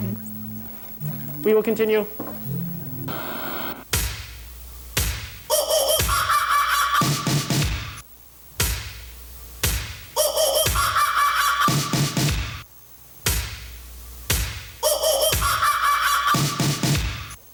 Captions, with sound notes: - We will continue. (upbeat music) (monkey screeching)